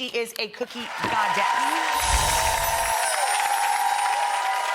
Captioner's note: applause